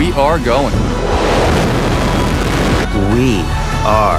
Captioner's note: rocket engine blast